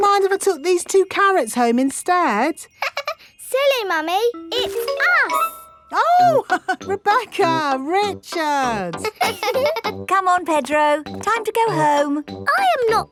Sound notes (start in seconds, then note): 3.1 laughs; 8.8 both laughing; 8.9 chuckles